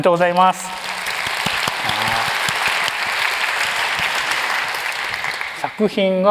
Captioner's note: applause